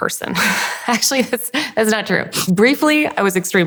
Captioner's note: laughs